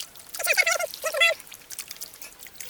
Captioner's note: mouse noises